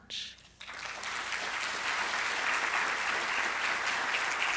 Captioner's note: audience claps